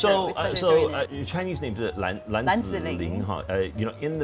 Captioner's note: in Mandarin